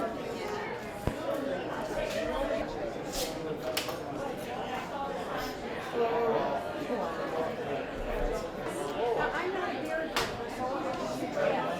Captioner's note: general chatter